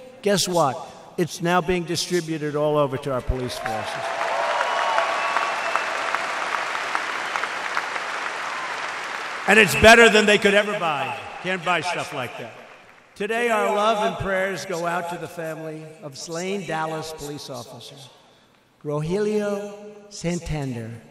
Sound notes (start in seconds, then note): 3.2 applause